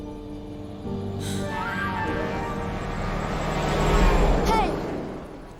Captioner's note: horn honking